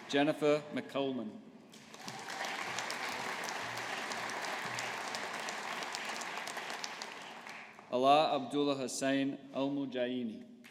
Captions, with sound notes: Jennifer MacCalman. (AUDIENCE APPLAUDING) Alaa Abdullah Hussain Al-Mujaini.